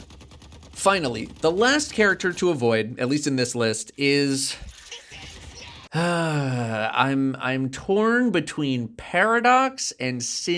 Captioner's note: sigh